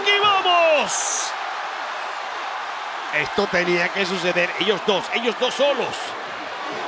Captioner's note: applause